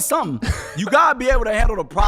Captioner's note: laughing